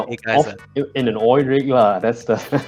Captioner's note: nervous laughter